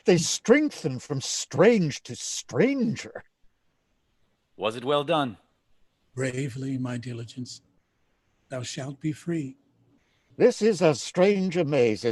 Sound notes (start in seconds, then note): none